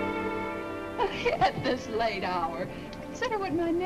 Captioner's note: giggles